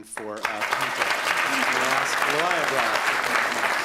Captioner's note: applause